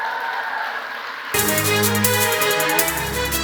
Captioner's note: applause